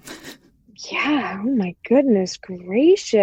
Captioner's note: laughter